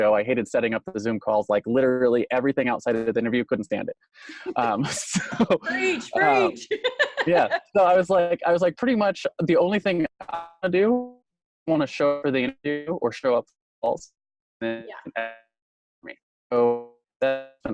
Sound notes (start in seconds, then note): 4.2 laughs